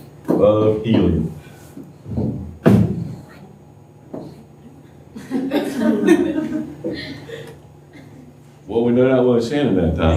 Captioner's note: laughter